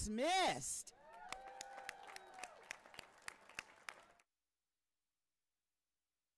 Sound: audience applauding and cheering

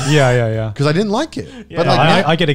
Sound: laughs

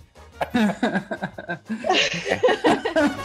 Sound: laughter

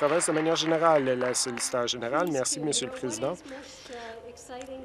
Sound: applause

